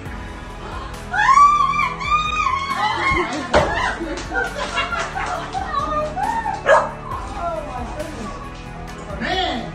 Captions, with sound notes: (woman screaming happily) (dog barking) - Oh my goodness, man!